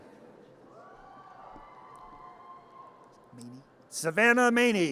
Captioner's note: audience cheers